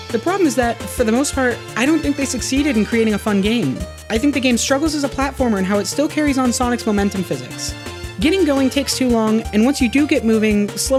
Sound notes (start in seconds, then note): none